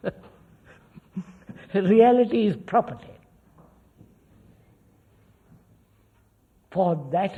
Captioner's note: laughs